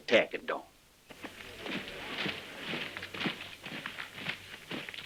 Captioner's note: boots thudding